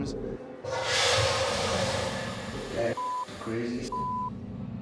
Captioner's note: toilet flushing